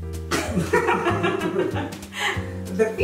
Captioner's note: both laughing